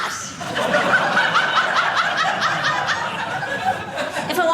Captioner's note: audience laughing